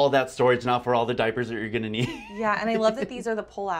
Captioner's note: laughs